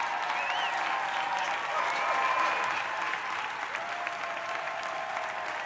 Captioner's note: audience cheering